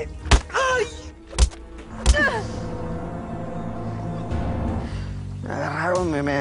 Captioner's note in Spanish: Golpe contundente